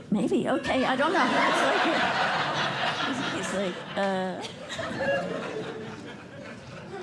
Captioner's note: laughter